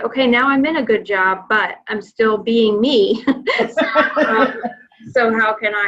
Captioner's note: laughing